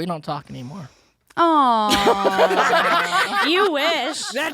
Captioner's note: all laughing